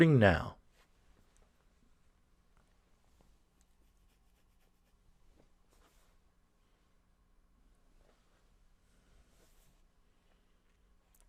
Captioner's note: pause